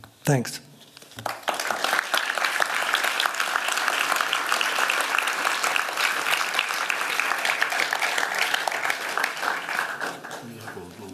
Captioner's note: applause